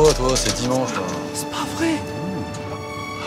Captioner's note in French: ton d'étonnement